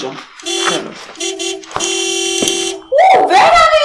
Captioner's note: School Vehicle honking